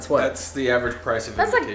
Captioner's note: male Voice